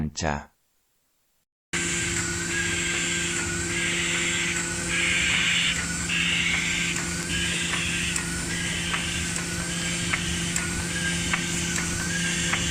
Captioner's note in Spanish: sonido de la máquina en marcha